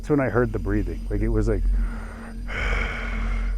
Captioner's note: inhales and exhales